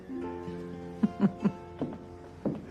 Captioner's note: chuckles